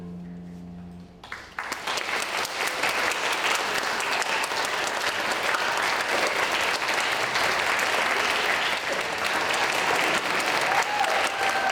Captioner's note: applause